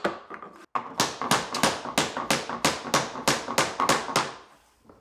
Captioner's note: mallet knocking